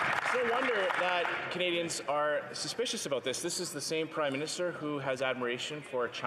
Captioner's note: some Applause